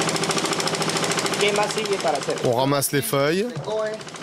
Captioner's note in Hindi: स्पैनिश बोलते हुए